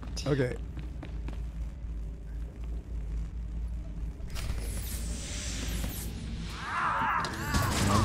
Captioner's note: gunshots